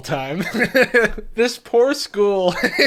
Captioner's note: laughs